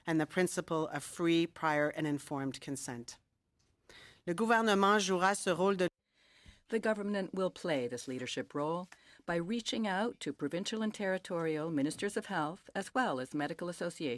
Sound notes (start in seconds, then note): 8.0 speaking French